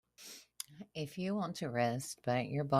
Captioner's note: soft breath